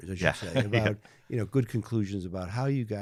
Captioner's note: chuckling